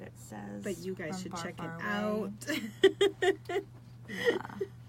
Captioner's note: laughs